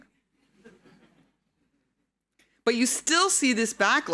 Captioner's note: audience laughing